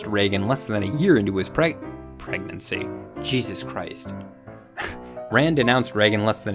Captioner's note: laughs